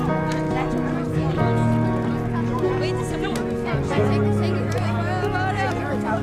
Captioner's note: cheerful guitar music; fire flakes cracking; students chattering